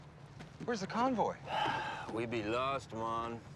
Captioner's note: sighs